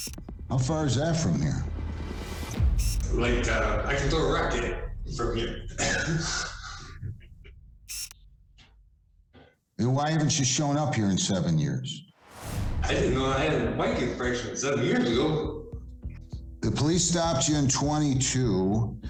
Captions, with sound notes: - How far is that from here? [chuckles] [lens whirs] - Then why haven't you shown up here in seven years? - The police stopped you in '22,